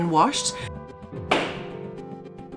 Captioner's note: gavel bang!